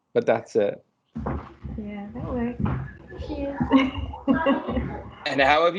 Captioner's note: children running, laughing